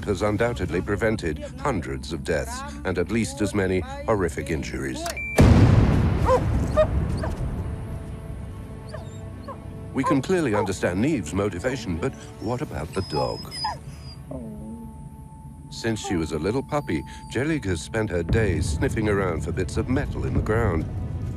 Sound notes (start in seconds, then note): 5.3 booming; 6.2 barking